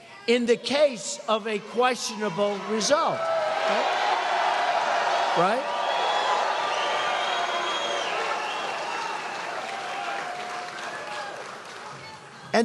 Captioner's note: cheers, applause